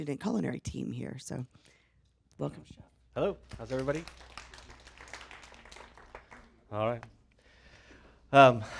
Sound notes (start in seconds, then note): 3.4 applause